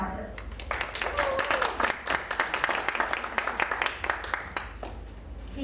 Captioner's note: audience applauds